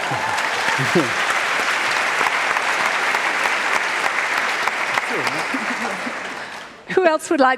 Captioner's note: applause